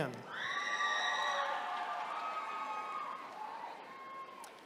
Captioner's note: attendees cheering